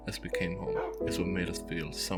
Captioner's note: woof